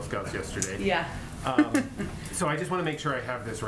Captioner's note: laughs